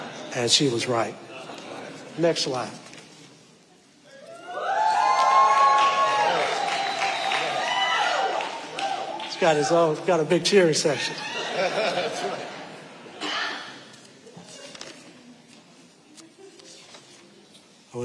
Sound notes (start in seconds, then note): 0.0 audience laughing; 4.3 audience cheering; 10.8 audience laughing; 13.1 someone coughs; 14.1 audience murmuring; 14.5 papers rustling